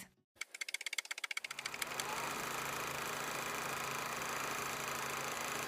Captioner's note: old movie reel clicking